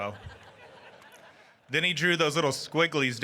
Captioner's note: audience laughing